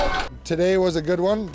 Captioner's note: winch whirring